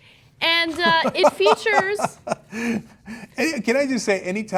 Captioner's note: CENK laughing